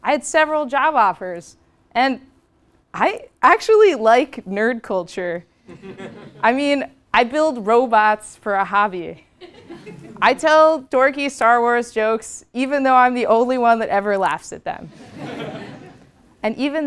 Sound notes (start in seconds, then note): 5.7 laugh; 15.0 laugh